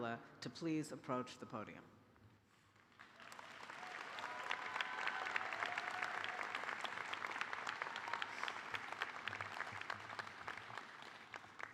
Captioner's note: applause